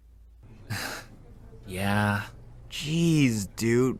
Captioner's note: sigh